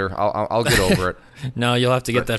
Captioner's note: chuckles